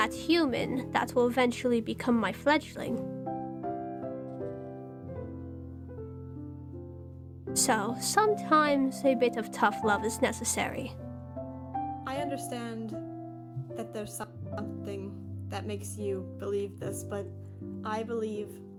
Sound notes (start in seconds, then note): none